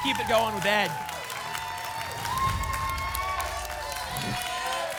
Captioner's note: applause and cheering; whoosh